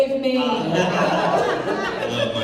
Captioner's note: laughter